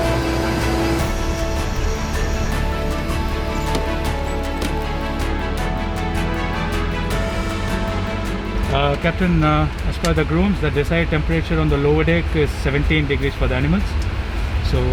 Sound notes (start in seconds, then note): 3.7 latch engaging